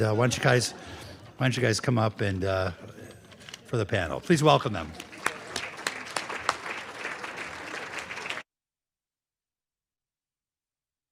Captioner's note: laughter; applause